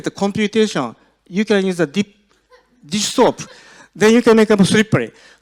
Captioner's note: audience laughs